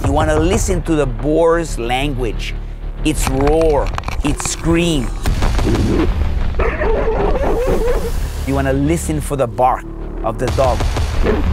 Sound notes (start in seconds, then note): 6.6 dog barking